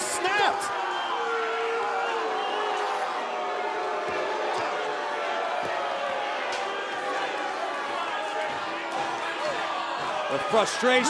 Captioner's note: crowd cheering